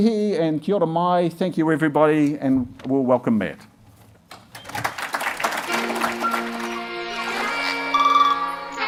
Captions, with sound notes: thank you everybody, and we'll welcome Matt. (audience claps) (upbeat music)